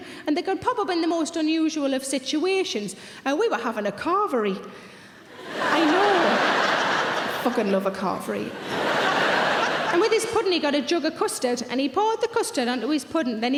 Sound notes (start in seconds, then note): 8.5 audience laughing